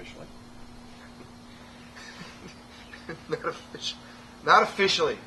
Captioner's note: giggling